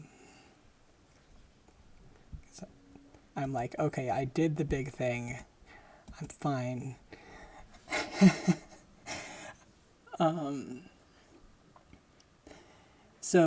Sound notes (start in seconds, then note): 7.7 laughing